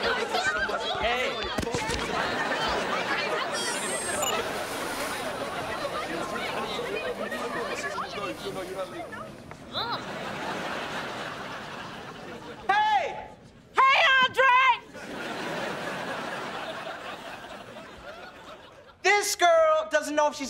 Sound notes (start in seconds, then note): 0.0 clamoring; 2.4 clamoring